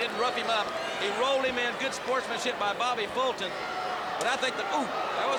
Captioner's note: crowd cheering